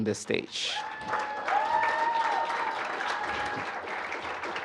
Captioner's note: applause